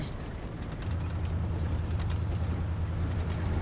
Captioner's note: engine purring